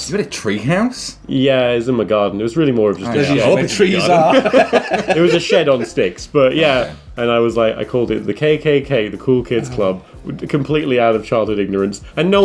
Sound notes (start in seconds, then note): 3.1 laughing